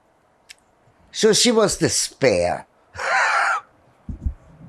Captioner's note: laughing